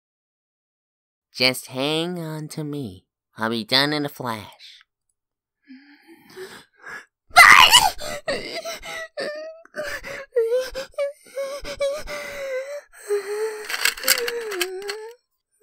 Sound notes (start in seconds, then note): 7.3 shrieks in pain; 8.9 whimpering; 11.6 breathing slowly